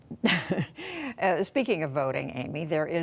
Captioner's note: laughter